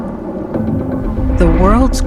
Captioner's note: thunder rumbles